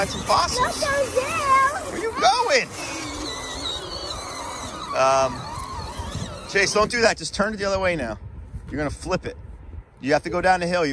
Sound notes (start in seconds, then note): 0.3 motor buzzes; 3.6 motor buzzes